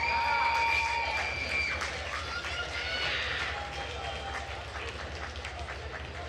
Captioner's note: attendees cheering and applauding